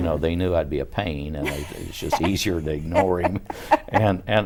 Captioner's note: laughing